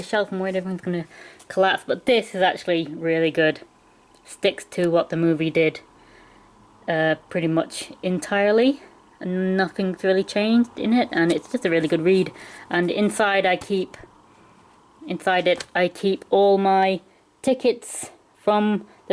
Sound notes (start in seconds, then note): none